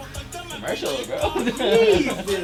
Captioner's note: laughs